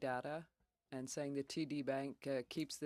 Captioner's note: speaking French